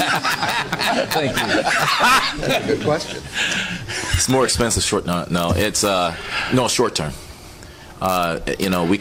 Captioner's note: laughter